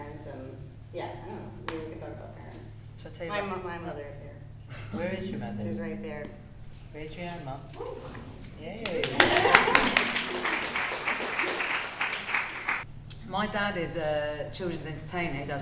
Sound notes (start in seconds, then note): 4.6 laughs; 10.3 audience clapping